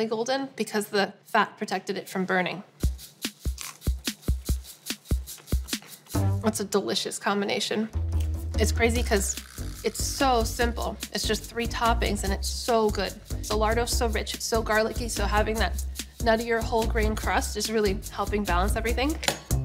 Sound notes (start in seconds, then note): 3.2 crunching